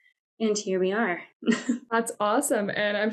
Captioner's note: laughter